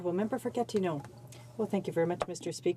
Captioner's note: speaking French